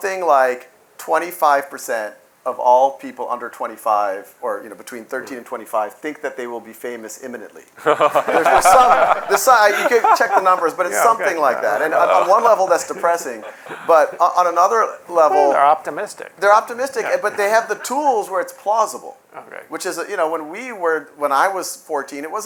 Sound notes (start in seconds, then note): 7.8 laughter